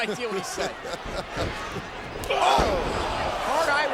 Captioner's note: laugh